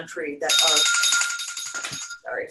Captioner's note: ringing